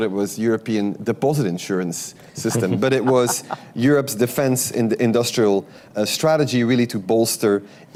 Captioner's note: laughter